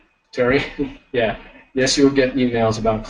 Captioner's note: laughing